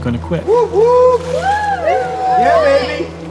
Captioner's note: group cheers and laughs